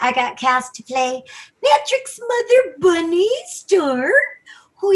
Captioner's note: 'old woman' voice